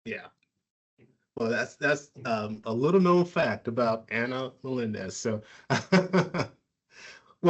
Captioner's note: laughs